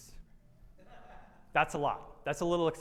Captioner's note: attendee laughs